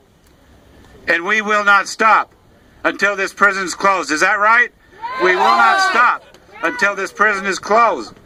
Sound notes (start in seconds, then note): 4.9 crowd - "Yes!